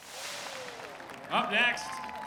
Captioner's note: applause